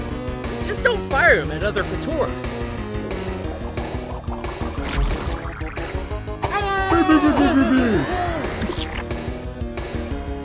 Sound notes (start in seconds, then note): 8.6 splat!!